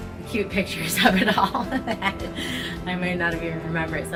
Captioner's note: laughs gently